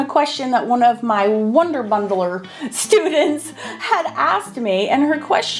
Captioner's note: laughing